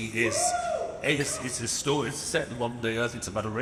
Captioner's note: audience cheers